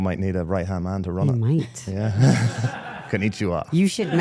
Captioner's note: people laughing; laughing; person laughing